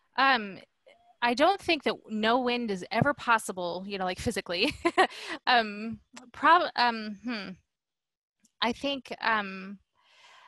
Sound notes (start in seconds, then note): 4.6 laughter